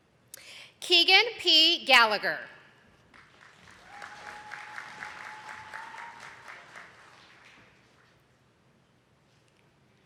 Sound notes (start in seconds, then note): 3.0 attendees clapping